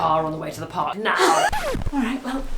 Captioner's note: record scratch